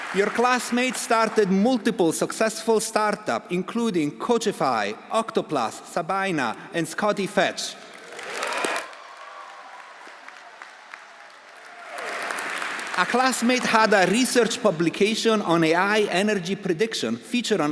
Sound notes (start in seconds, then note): 7.8 audience applauding; 8.0 audience cheering